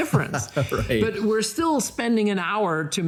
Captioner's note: laughs